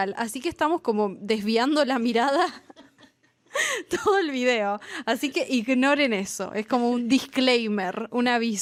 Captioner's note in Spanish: risas